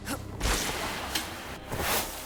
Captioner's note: glass shattering